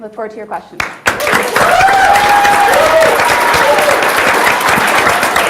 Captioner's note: audience applauds